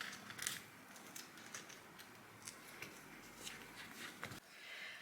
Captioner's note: light sticking sounds continue